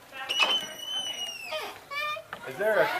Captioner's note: door creaks